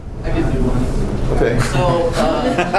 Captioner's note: laughter